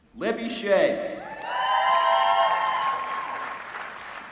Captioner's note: applause